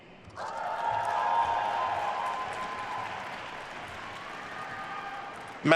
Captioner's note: attendees cheering and applauding